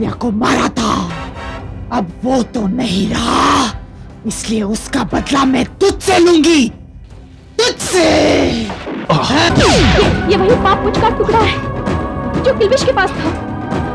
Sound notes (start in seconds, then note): 9.1 groans